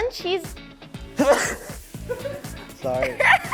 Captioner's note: sneezing